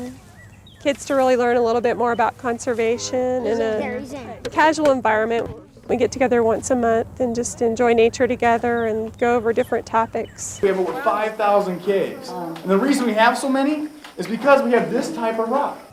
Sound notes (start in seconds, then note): 6.4 crowd